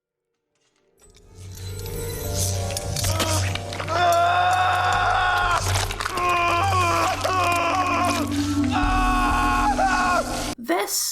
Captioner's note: pained Screaming